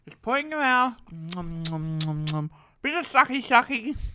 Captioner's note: chews loudly